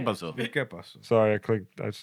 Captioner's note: non-english Speech